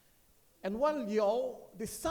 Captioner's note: speaks foreign language